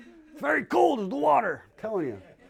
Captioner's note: laughter